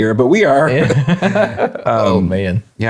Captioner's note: both laughing